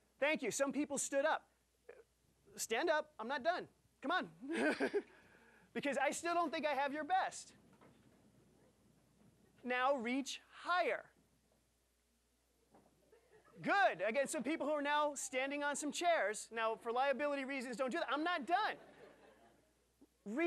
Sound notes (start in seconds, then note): 4.4 laughing; 12.7 audience laughing